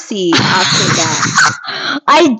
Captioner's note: laughing